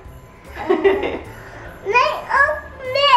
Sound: chuckles

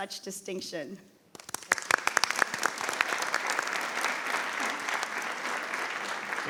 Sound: board and audience applauding

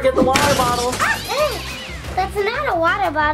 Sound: object crashing; girls startling

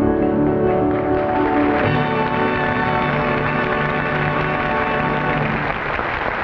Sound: audience applauding

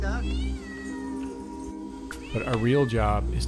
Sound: cat meows

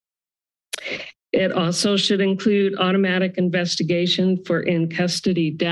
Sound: inhales

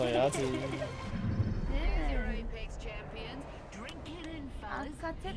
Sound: laughs

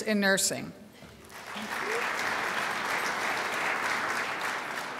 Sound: crowd applauds

